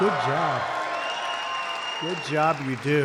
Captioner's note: applause